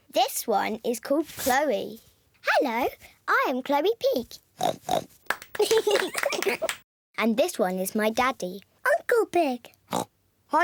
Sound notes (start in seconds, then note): 4.6 oinks; 5.5 both giggle; 9.9 oinks